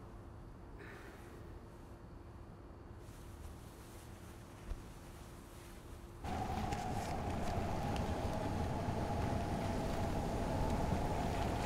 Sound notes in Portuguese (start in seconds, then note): 0.8 respiração profunda; 6.2 barulho de carros